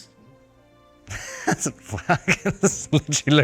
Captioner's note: Robert laughing